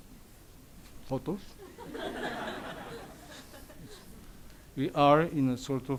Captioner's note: audience laughs